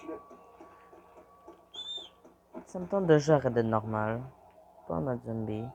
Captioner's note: hissing